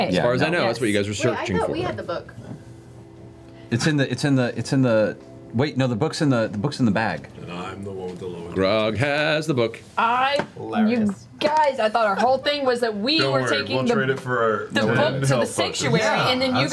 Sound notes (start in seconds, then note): 9.4 singsong